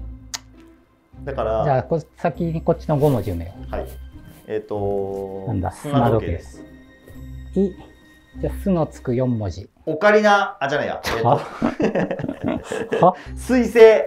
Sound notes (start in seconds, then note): 11.0 laughing